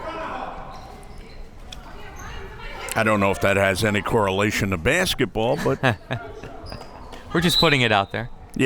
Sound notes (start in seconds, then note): 0.4 crowd members shouting; 5.4 laughing